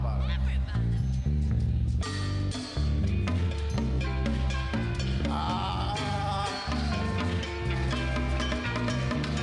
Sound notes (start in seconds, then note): 1.9 vocalizing; 2.0 progressive rock music